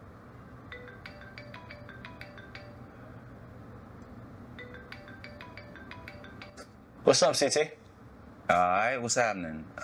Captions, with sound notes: [Phone ringing] What's up ct? Alright, what's happening?